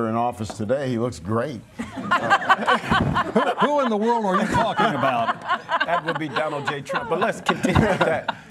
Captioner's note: laughter